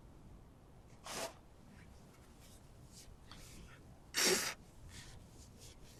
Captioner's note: wiping nose